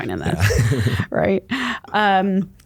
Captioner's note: laughs